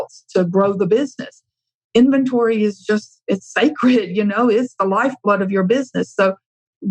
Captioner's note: laughs